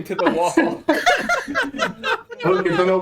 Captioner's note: everyone laughing